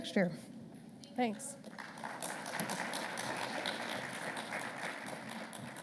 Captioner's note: audience applauding